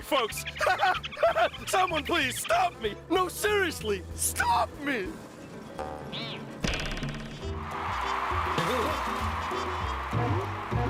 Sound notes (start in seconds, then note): 0.3 laughs deliriously; 7.5 cheers and applause